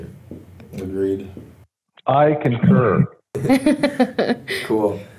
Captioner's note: laughter